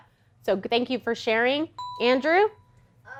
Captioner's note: ding